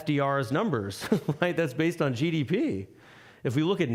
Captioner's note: laughing